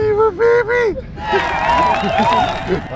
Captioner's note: crowd cheering